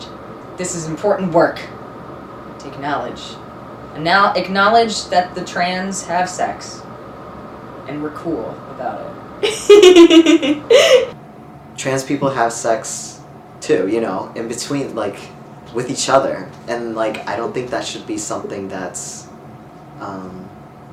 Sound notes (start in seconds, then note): 9.4 laughs